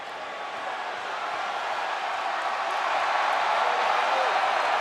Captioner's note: audience cheering